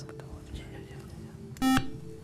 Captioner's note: buzzer